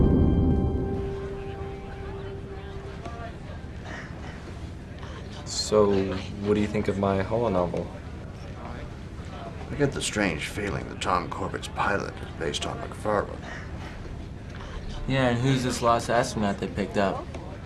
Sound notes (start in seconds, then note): 0.1 background voices